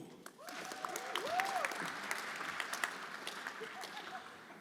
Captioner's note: everyone applauding